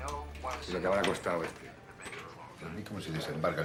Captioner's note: berbicara bahasa spanyol